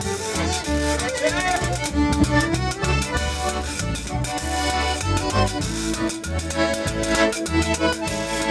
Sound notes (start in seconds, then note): 1.4 shouts